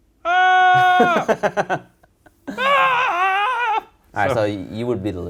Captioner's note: laughs